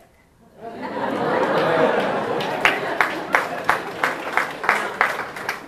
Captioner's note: audience laughing and applauding